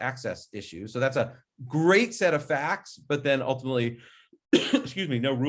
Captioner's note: coughs